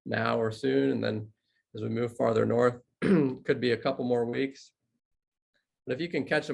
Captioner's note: cough